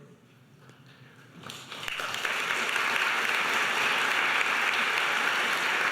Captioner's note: audience applauding